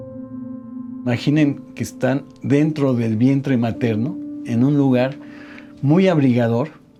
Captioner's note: speaking in Spanish